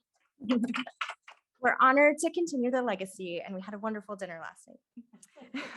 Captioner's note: laughing